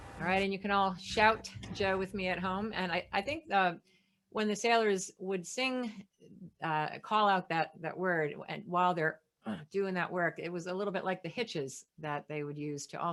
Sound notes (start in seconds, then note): 9.5 groans